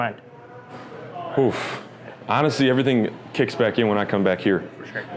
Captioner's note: sighs